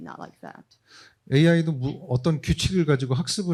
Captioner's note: speaking korean